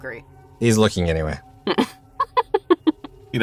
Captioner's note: chuckles